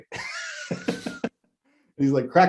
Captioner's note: laughs